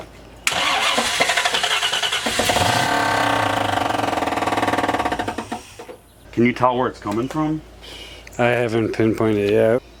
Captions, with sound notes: [starting car again] [fast knocking noise] Can you tell where it's coming from I haven't pinpointed yet.